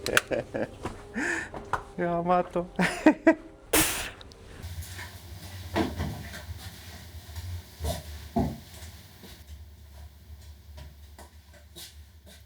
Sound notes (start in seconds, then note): 0.2 laughter; 3.8 pfft!